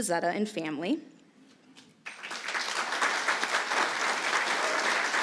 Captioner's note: applause